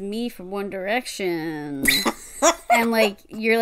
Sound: laughs

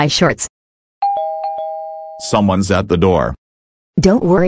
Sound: doorbell rings

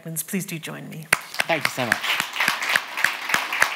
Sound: audience clapping

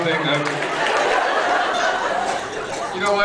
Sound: laughs

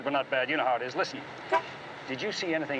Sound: car honks

